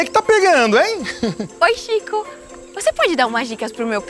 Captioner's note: Chico laughs; Chico clears his throat